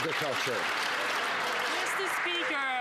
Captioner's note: some Applause